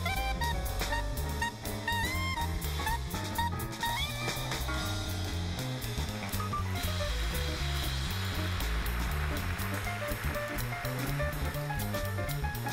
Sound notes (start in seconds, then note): 6.5 applause